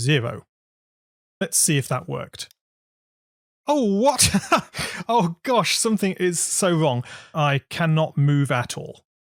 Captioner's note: laughs